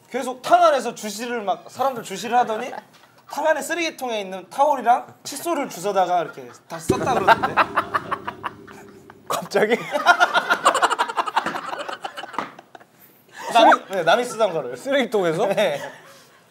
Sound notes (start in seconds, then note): 9.9 laughing